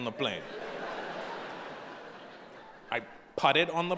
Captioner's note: audience laughing